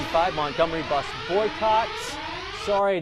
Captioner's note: alarm